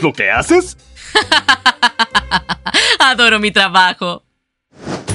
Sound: chuckles

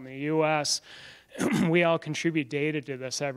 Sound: throat clearing

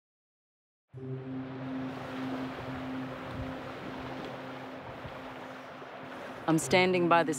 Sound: ocean waves lapping at the shoreline

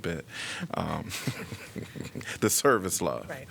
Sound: laughter

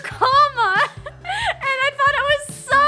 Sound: laughs

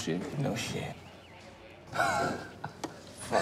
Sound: laughter

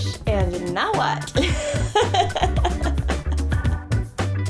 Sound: laughing

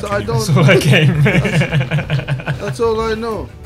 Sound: laughs

